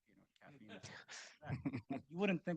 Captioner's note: group chuckling